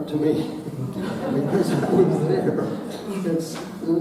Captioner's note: audience laughing